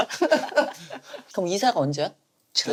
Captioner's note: giggling